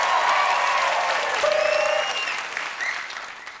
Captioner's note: applause